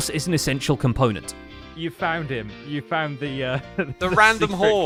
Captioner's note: laughs